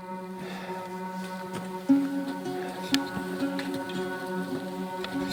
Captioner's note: heavy breathing